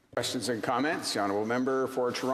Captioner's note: speaking indigenous language